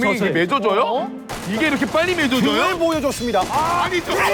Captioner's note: firing shots